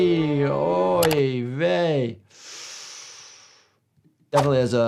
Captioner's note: exhales